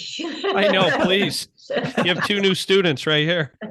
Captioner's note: laughing